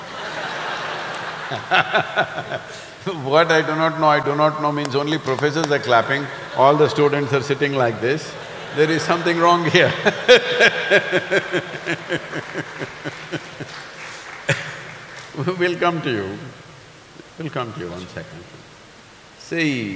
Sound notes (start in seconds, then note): 2.6 laughter; 10.1 laughter/Applause